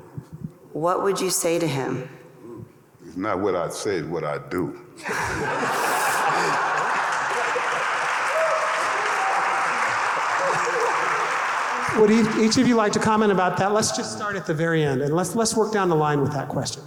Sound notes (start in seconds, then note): 5.0 audience laughing; 5.3 audience applauding